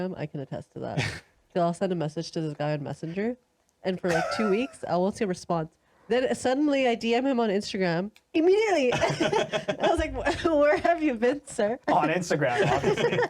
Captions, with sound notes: I can attest to that. So I'll send a message to this guy on Messenger and for like two weeks, I will say response. Then suddenly I DM him on Instagram immediately. (laughing) I was like, where have you been, sir? On Instagram, obviously.